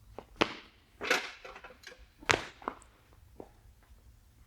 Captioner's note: impacts bench